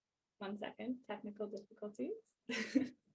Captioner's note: laughs